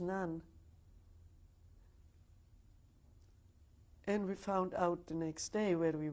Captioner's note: pauses for 3 seconds